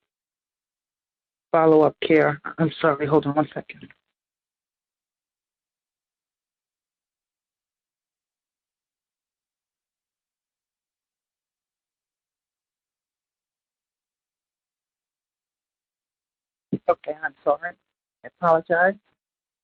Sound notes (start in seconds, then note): 4.5 silence